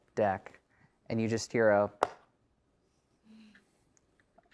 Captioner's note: lid snaps